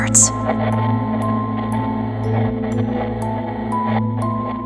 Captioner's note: static crackling